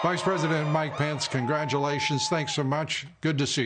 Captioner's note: cheers and applause